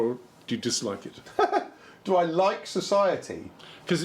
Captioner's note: laughter